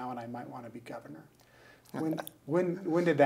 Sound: laughing

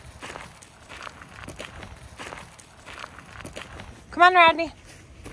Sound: feet thumping

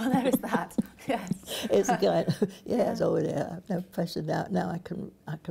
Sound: laughs

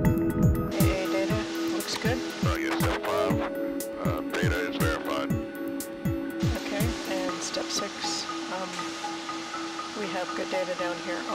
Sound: radio chatter

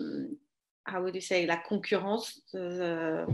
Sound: speaks french

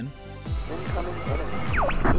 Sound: radio voice

